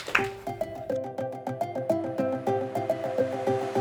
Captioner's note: applause